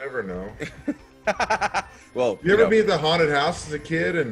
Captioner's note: laugh